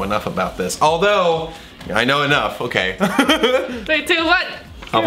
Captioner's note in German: kichert